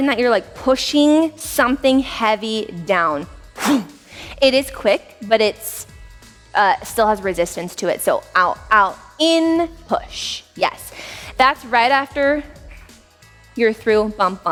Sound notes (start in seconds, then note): 3.6 air sound effect